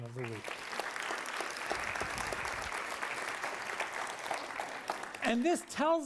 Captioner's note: applause